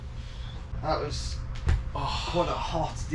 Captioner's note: sighing